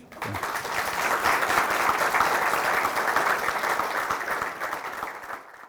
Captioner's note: applause